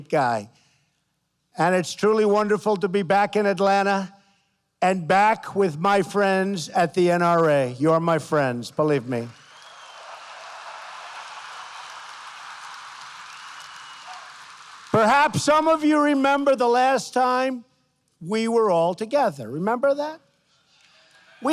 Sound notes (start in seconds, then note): 9.0 applause